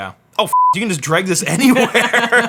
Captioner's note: beep; laughing